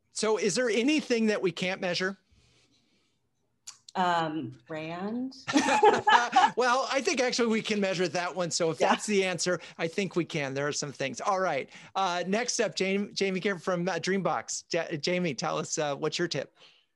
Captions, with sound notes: - Is there anything that we can't measure? - Brand. (both laugh) - Well, I think actually we can measure that one, so if that's the answer, I think we can, there are some things. All right, next up, Jamie Gier from the DreamBox. Jamie, tell us, what's your tip.